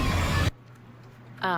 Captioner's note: flames erupt